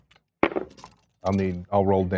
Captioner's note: dice rolling